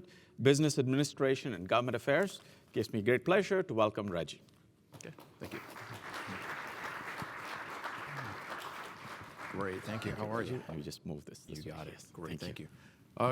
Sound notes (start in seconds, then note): 5.4 applause